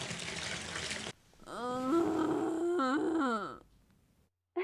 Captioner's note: Arbor Groaning